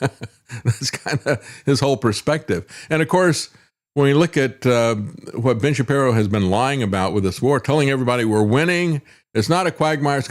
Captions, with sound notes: (Laughs) That's kind of his whole perspective. And of course, when we look at what Ben Shapiro has been lying about with this war, telling everybody we're winning, it's not a quagmire,